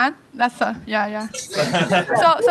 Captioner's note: laughter